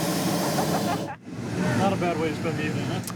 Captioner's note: laughing